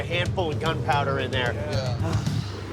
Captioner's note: sighs